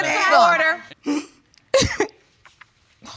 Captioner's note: sobbing